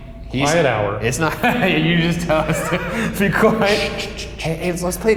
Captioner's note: laughs